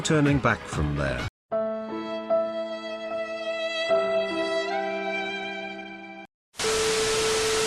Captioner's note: sad Rain Noises